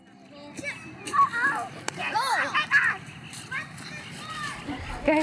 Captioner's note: kids playing